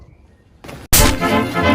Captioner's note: smack